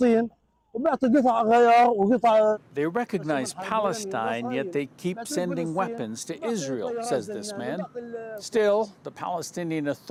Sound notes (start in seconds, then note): 1.4 speaking alternate language